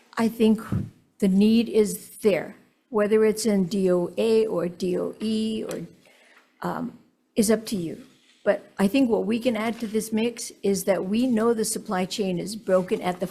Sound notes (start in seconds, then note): none